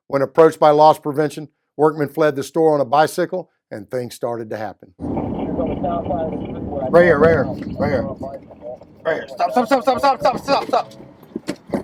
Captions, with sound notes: When approached by loss prevention, Workman fled from the store on a bicycle, and things started to happen. (police radio chattering) - Right here, right here, right here. Right here. Stop. Stop. Stop. Stop. Stop. Stop.